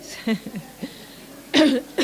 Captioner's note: laughter